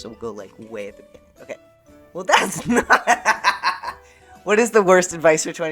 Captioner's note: laughter